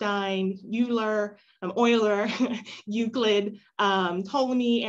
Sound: laughter

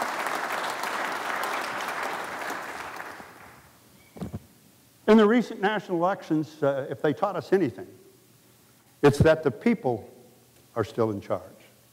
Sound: applause

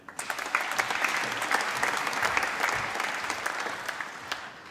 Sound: applause

